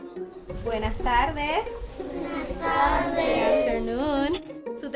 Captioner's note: gentle music continues; teacher and students speaking Spanish